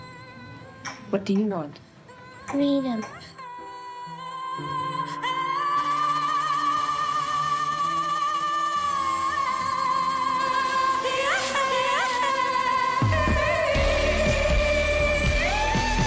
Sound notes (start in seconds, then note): 3.3 gentle vocalization; 10.7 singing swelling